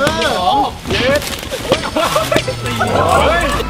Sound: laughs; cheering

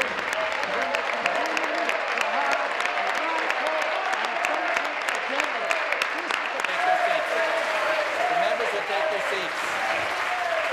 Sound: applause

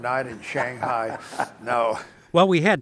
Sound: laughs

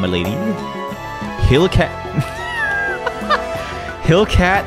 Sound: laughs

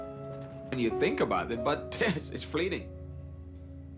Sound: laughs

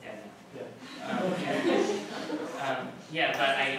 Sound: laughter

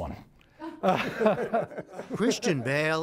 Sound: laughter

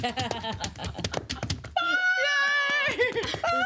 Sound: girl laughs

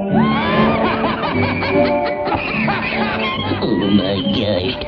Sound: laughing

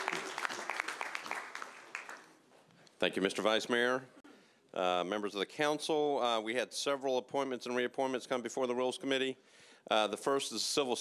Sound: applause

